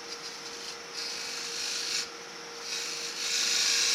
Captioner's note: machine whirring